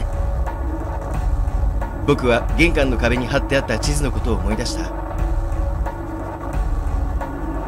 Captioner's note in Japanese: none